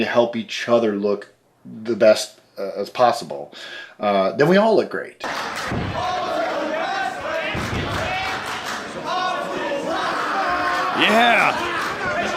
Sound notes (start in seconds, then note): 7.1 clapping